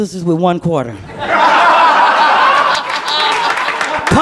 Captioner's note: laughter